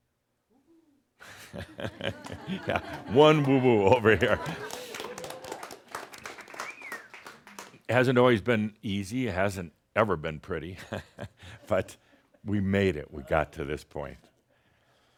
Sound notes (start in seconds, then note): 6.2 some applause; 10.8 chuckles